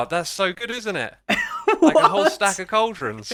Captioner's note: laughs